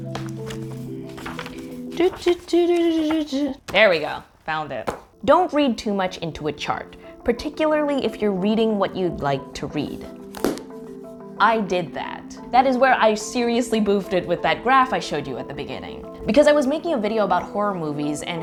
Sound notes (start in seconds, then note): 0.0 pages flipping; 1.9 rhythmically humming